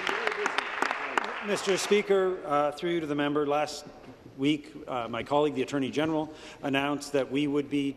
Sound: applause

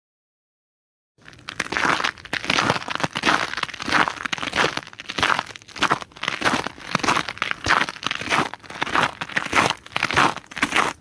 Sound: sound of pacing on a snow

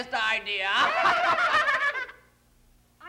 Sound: all laughing

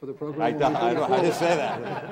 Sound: all laughing

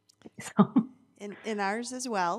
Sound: laughs

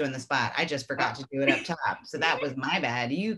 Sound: laughing

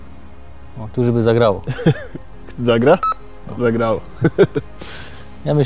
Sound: laughing

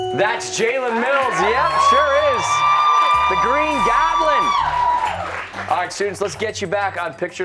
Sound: cheers and applause

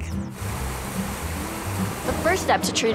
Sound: water splashing

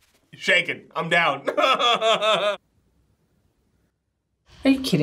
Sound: laughs

